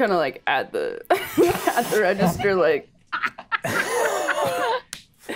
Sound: players laughing

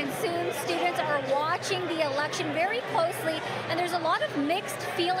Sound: none

